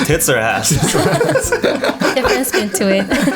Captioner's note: laughter